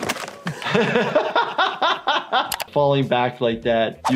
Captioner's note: doctor laughs